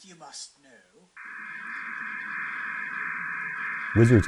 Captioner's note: buzzing noise